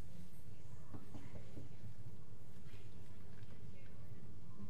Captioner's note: knocks on door